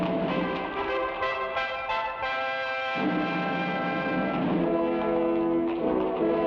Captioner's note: thrilling music; horse hooves patter